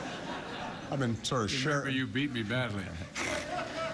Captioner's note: laughter